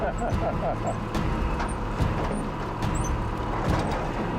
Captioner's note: laughing; ominous music